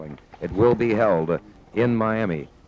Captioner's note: papers shuffling